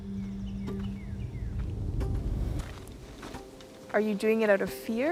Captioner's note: birds chirping; soft music